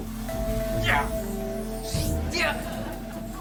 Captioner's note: grunting